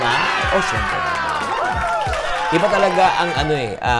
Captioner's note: applause; cheers; applause; cheers